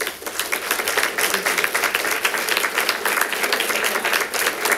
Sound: congregation claps

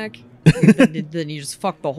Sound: giggles

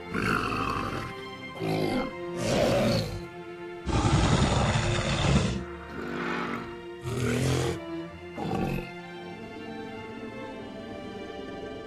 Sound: metriacanthosaurus Sounds

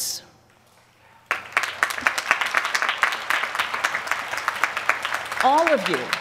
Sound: applause

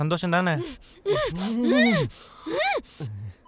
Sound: grunts

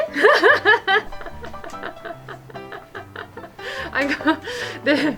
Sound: laugh

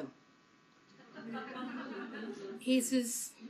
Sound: laughter

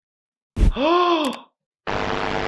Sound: gasps

